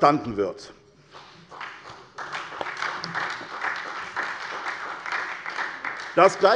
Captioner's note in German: Beifall bei der SPD